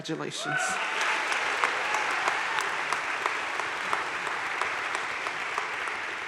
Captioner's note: crowd cheering and applauding